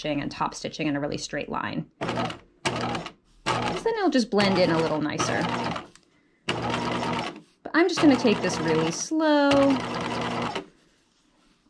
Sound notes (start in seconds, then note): 3.4 sewing machine clunking; 6.5 sewing machine clunking